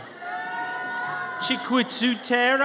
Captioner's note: audience cheers